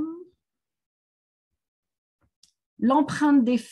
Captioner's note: silence